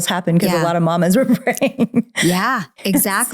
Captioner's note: laughs